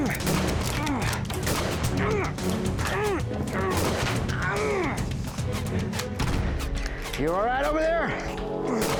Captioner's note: grunting, gunfire; gunfire